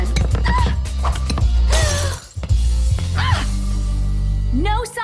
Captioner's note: glass breaking